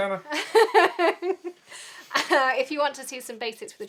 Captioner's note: laughs